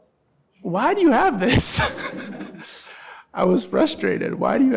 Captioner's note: laughing